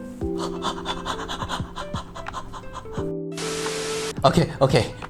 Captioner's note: intensely breathing